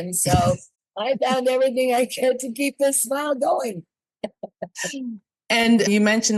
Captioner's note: laughs